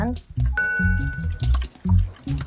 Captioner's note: ding